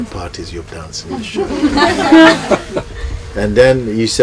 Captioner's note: laughter